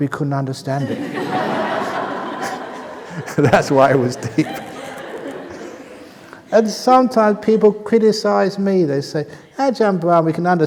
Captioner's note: laughter